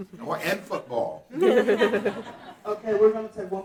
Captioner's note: audience laughing